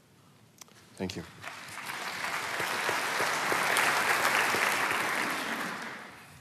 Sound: applause

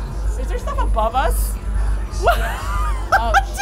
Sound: laughs

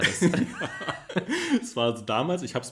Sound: laughs

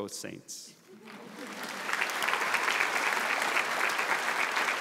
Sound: audience applauds

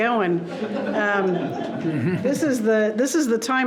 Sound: people laughing

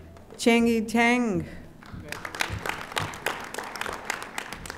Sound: audience applauding

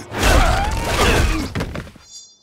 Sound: grunting

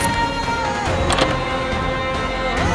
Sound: door closing

